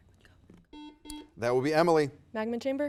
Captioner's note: buzzer beeps